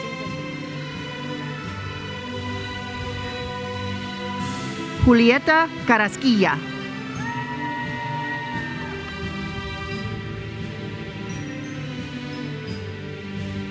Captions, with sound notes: Julieta Carrasquilla. (attendees cheering) (uplifting music continues)